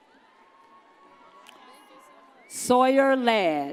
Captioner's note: audience cheers